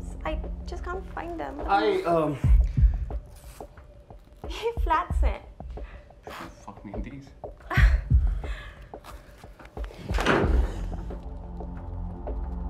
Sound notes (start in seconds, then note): 7.6 Ananya chuckles